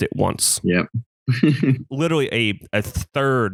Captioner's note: laughs